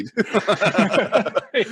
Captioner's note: laughs